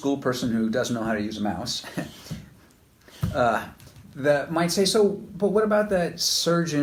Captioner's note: chuckles